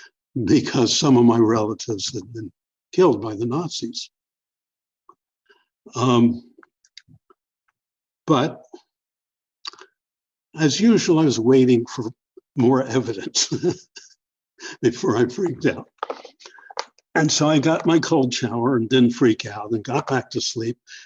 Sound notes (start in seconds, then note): 10.7 laughter